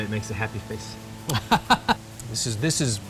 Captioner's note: laughs